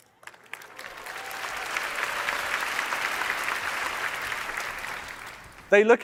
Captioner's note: applause